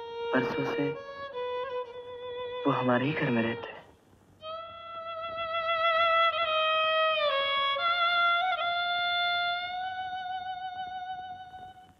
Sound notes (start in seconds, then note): none